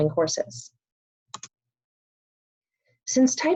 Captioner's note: pause